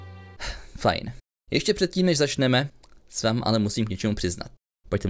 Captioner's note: sigh